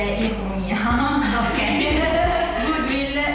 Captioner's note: laughing